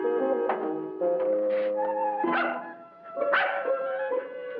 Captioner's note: dog barking